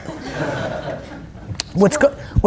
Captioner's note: audience laughs